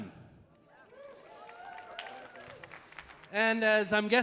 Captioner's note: audience applauding